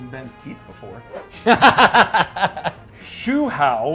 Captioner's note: laughing